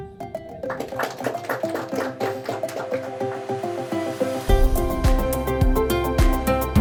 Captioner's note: applause